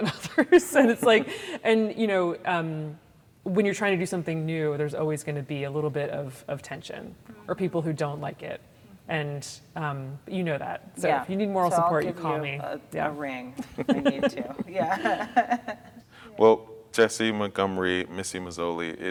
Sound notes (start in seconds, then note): 1.0 laughs; 13.6 giggles; 16.1 laughs